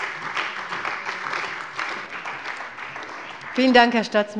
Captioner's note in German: Beifall bei der CDU und dem BÜNDNIS 90/DIE GRÜNEN